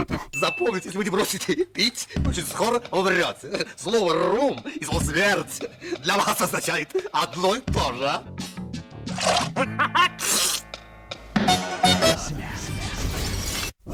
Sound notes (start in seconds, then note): 10.2 sneezes